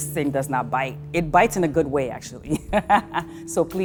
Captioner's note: laughs